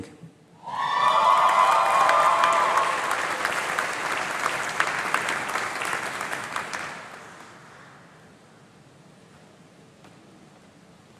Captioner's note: applause